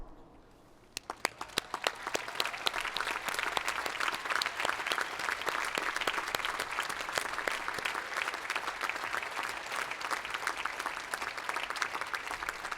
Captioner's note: applause